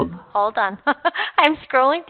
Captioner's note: chuckling